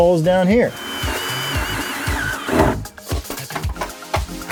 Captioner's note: drill whirring